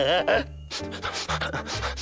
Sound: giggling; sniffing

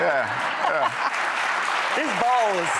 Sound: laughs; audience clapping

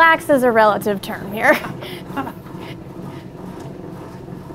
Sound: laughs

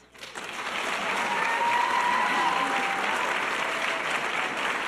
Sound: audience cheers and applause

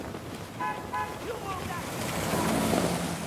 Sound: flutters in the wind; car honks, Man yells

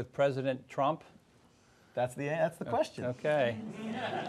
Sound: audience laughs

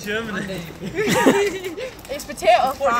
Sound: chuckle

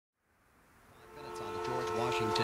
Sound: radio Broadcast - Traffic Report

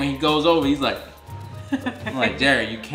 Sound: laughing

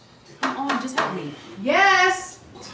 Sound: Tone knocking on door

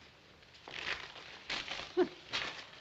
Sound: laughs

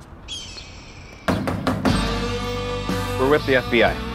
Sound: birds chirping; knocking

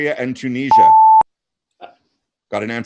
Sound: loud beeping noise

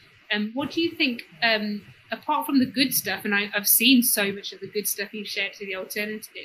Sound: erm

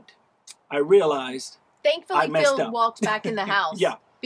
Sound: laughs

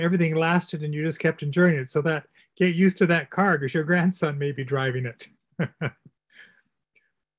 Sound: laugh

